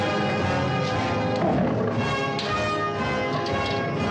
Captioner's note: lions growling